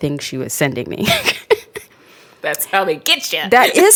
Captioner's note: laughs